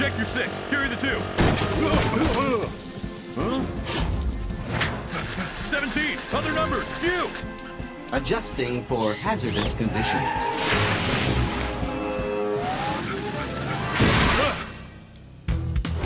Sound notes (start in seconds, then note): 2.2 grunting; 5.7 panting; 14.4 Launchpad grunts